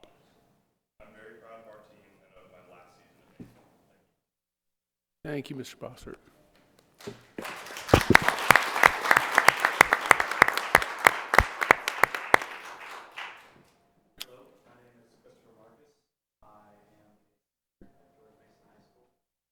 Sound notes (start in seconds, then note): 7.0 applause